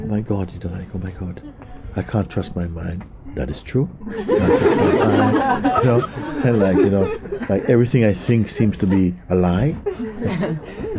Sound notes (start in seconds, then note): 4.0 laughter